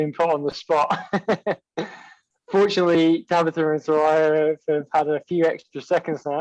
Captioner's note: everyone laughing